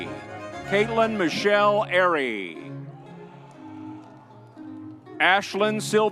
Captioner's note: crowd cheering